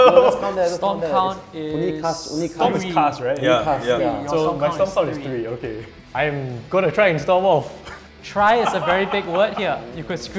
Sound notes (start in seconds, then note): 8.5 laughs